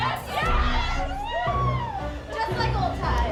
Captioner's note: chanting; whooping